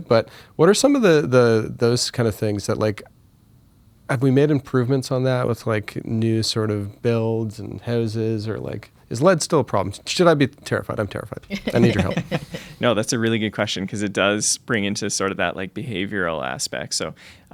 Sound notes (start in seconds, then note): 11.4 laughter